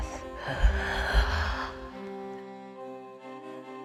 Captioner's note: inhales